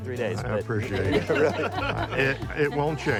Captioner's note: laughter